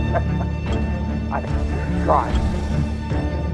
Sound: Captain Miller laughs

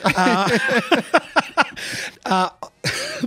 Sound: laughs

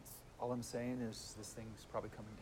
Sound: none

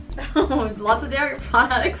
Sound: laughs

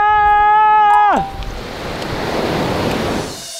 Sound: yelling bravely

